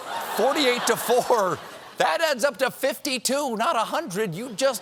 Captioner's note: laughter